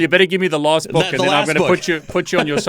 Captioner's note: laughs